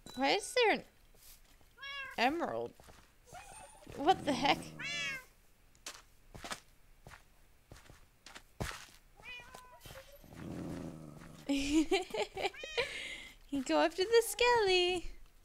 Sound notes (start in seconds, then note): 7.3 laughs